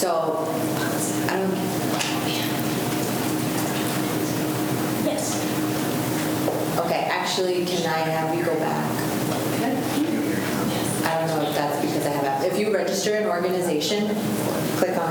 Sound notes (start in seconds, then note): 11.8 faintly speaking